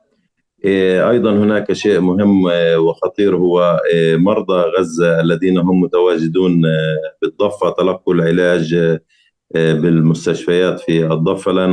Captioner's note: speaking arabic